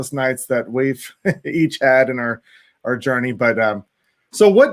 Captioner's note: laughs